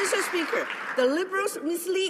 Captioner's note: applause